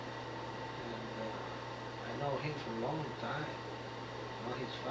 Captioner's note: none